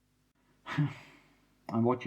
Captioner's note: sigh